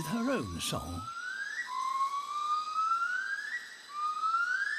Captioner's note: high-pitched hooting